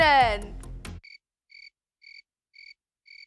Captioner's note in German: Grillen zirpen